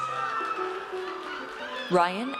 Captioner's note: audience cheers